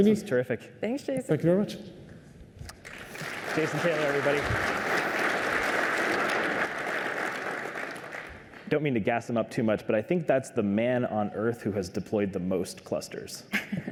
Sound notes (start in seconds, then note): 4.5 applause